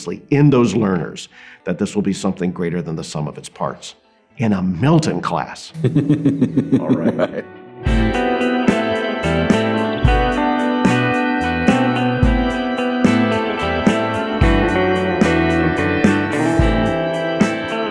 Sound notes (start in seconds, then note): 5.8 laughs; 8.9 mid-tempo electronic music